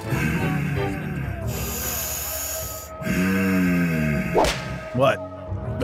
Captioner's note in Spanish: sonidos de pesada respiración